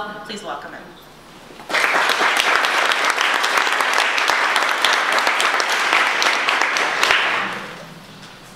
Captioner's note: audience applause